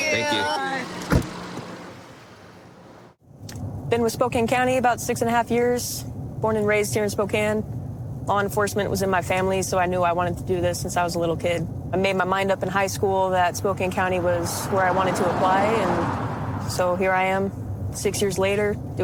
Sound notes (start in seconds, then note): 0.8 car door closes